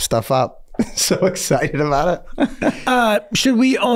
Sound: Glenn laughing

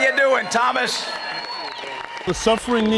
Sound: applause

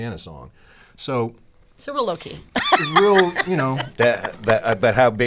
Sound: laughs

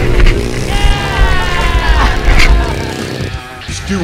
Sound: laughing; voiceover

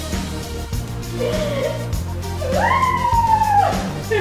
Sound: laughing

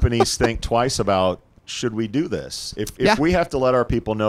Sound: laughing

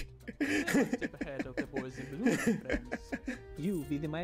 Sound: laughing

